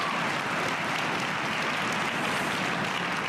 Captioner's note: cheers and applause